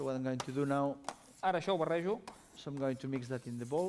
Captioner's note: non-english speech